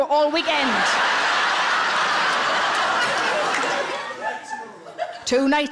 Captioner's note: audience laughing